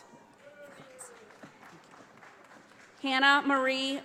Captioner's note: audience applauding